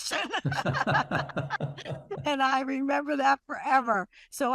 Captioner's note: laughter